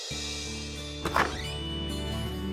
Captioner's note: Door opens